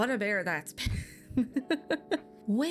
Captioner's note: laughs